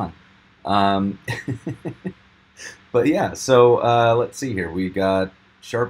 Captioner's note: lightly laughing